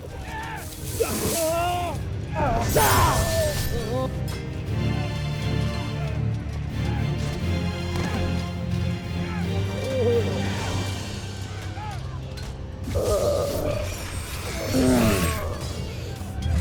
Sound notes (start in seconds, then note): 0.1 grunts, fizzes; 1.0 guttural cry of pain; 2.3 growls & groans; 2.6 sword swishes; 4.1 foreboding music playing; 9.2 groans; 10.6 music fades; 12.3 sword swishes; 12.8 groans & growls; 15.5 grunts, growls & groans; 15.5 swishes, clangs & thumps